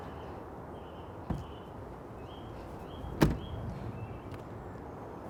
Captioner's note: car door slams shut